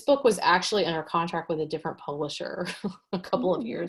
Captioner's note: chuckles